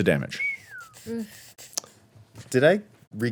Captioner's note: whistles